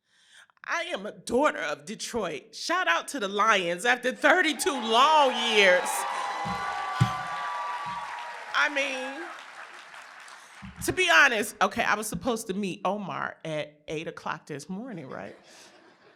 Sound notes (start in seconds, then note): 9.2 applause